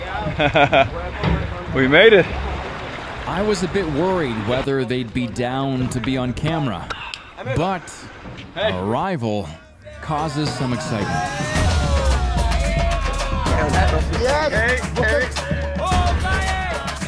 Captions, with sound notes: (laughing) We made it. I was a bit worried whether they'd be down to be on camera, but arrival causes some excitement. (group cheering) (lively world music) (locals shouting)